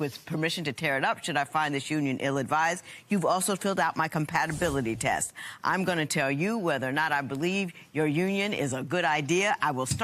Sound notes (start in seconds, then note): none